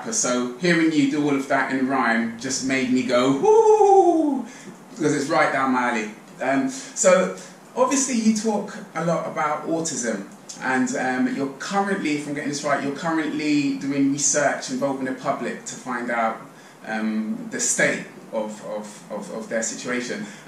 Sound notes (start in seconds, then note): 3.5 applauding loudly